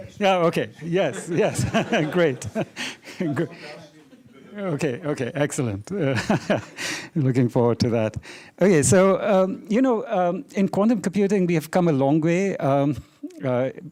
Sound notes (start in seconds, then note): 1.0 laughter; 6.0 laughs